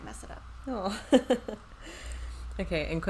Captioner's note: laughs